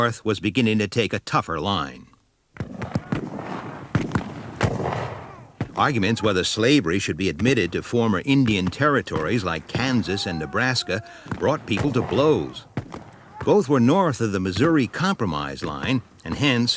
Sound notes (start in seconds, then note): 2.6 guns bang